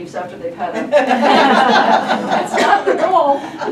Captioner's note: group laughing